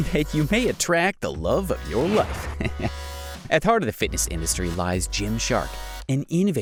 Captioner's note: giggle